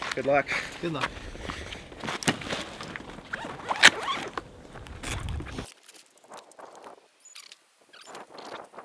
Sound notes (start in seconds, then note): 3.4 zippers slide